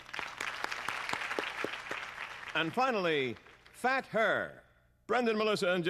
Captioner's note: applause